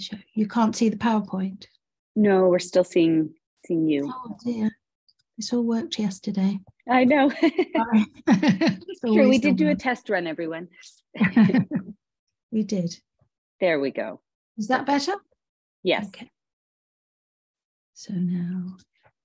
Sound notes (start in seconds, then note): 7.6 laughs